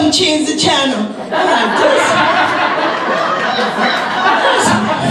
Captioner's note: audience laughs